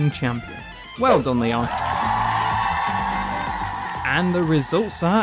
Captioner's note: crowd Cheers